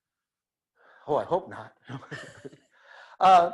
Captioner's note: laughs